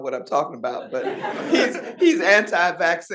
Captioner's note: audience laughing